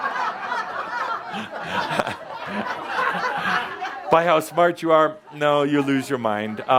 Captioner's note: laughter